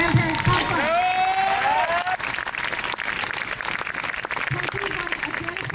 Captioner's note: crowd cheers